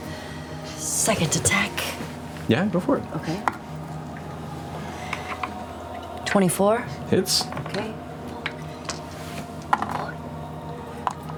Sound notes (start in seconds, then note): 8.9 whispering